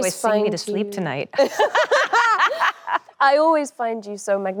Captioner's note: both laughing cheerfully